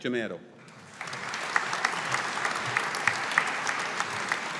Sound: audience applauding

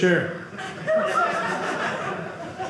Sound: audience laughing

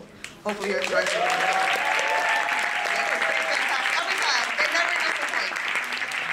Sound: applause

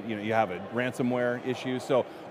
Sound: none

